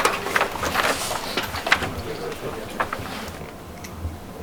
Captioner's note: paper clacks